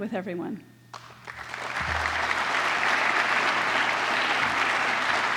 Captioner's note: applause